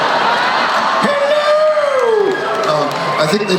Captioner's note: feminine voice